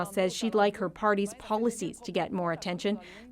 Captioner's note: speaking French